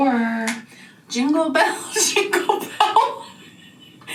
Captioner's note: laughing